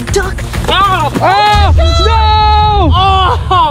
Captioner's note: screaming